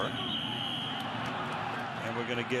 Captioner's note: whistle